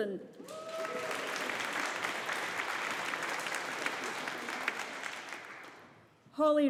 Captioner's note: audience applauding